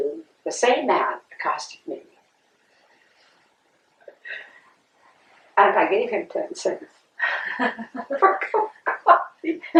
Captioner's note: laughter